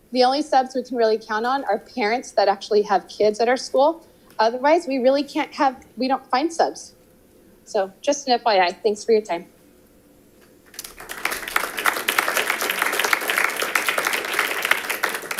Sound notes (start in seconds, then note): 10.7 audience applauding